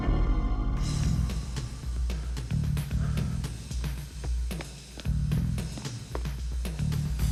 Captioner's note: suspenseful music; Dominic panting